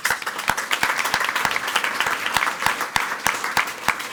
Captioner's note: people clapping